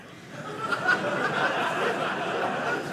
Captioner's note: audience laughing